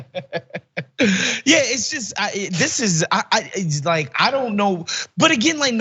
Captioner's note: laugh